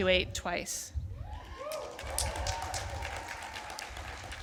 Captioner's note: applause